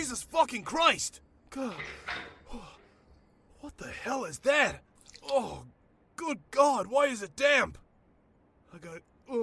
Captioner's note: breathing heavily